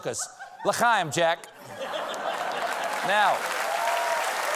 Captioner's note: cheers and applause